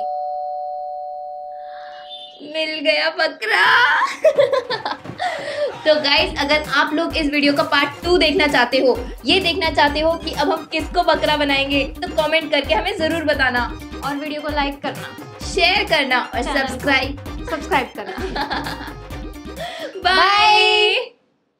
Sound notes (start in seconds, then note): 3.9 laughing